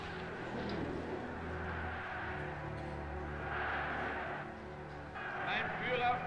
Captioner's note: crowd shouting